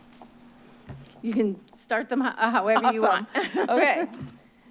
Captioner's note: laugh